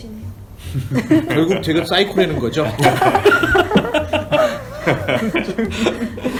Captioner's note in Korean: 핳핳핳하하하